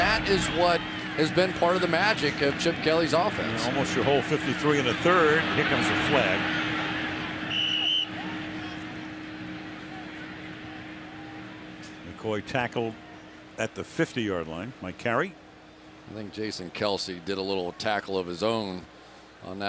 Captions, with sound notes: Here comes a flag. [whistle] McCoy tackled at the 50-yard line. Mike Carey. I think Jason Kelce did a little tackle of his own on that one coming out. So now-- Philadelphia--